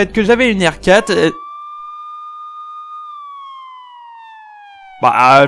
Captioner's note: police sirens